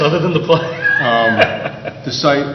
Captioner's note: laughs